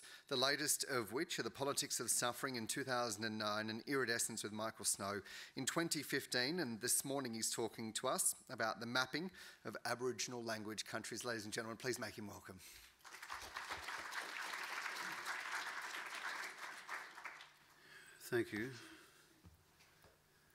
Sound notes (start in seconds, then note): 13.0 audience applauding